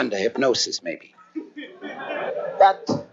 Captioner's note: laughter